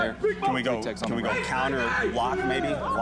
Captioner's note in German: Schreie im Hintergrund